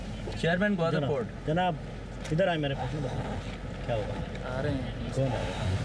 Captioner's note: both speaking foreign language